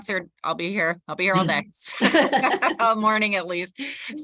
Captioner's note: laughs